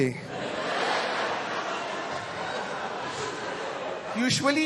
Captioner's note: laughter